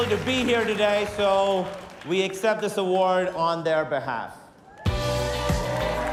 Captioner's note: cheers and applause